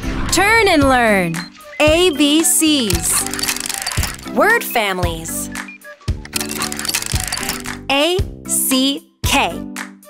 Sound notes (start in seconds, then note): 2.8 turning sound